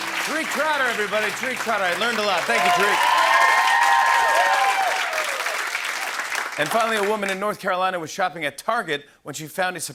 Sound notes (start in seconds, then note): 0.0 applause; 3.1 cheers and applause